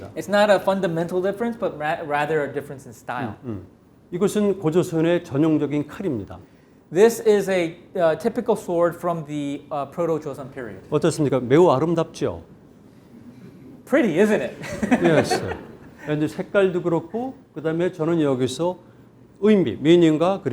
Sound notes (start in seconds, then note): 0.0 speaking in Korean; 4.3 speaking in Korean; 11.1 speaking in Korean; 14.6 laughs; 16.4 speaking in Korean